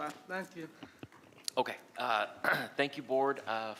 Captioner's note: clears throat